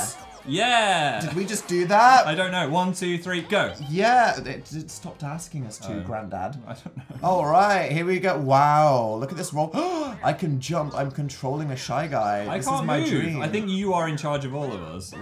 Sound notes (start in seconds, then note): 9.7 gasp